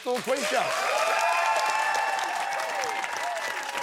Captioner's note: cheers and applause